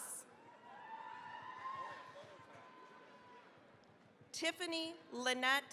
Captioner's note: cheering, applause